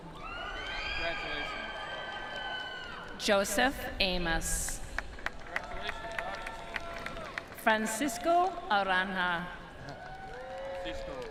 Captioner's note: applause